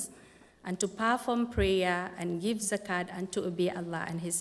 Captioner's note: non-english speech